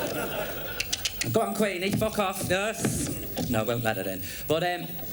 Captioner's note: clicks